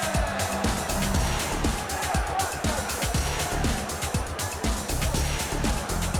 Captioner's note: crowd cheering